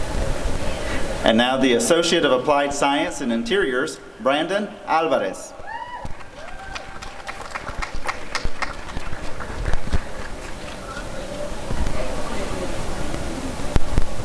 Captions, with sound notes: And now the Associate of Applied Science in Interiors— Brandon Alvarez [applause and cheering]